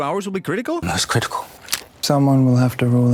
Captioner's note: crack